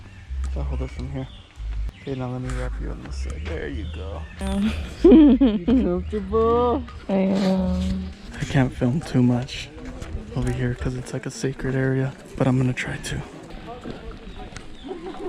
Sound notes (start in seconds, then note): 4.4 giggles